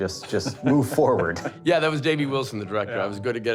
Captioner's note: laughter